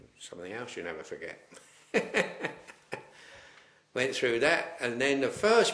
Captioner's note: laughs